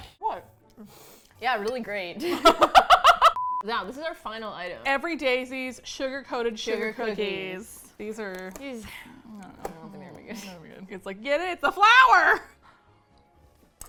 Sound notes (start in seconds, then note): 2.2 laughs; 8.4 sigh